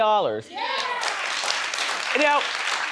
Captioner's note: audience applauding